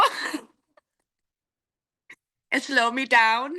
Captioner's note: laughing